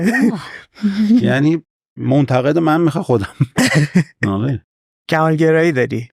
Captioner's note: laughs